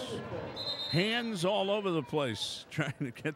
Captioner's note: whistle blowing